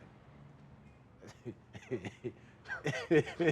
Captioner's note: laughing